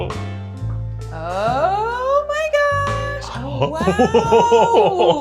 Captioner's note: laughing